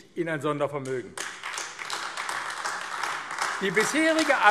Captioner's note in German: Beifall AfD